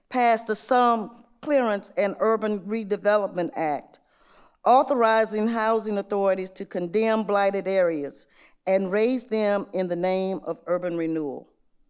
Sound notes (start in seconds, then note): none